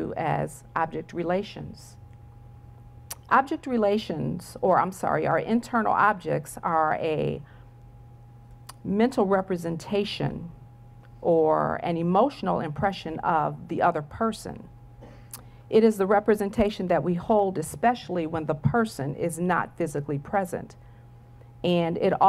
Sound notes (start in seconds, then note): none